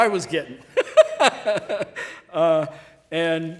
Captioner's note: laughing